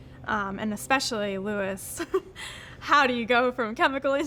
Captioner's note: laughing